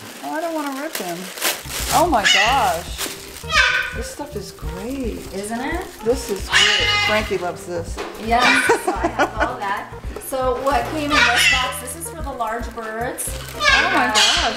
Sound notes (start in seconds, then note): 1.9 bird squawking loudly; 13.5 bird squawking loudly